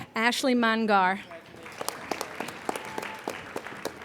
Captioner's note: applauding